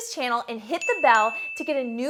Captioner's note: bell rings